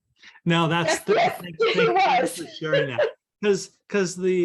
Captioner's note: laughs